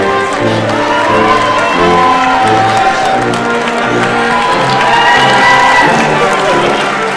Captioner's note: audience cheers; processional music continues